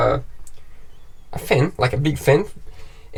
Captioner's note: exhausting fan